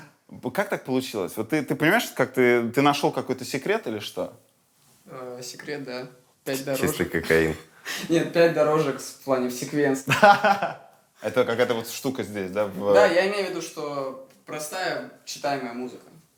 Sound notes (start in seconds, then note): 10.0 laughs